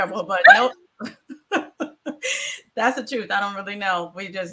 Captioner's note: laughs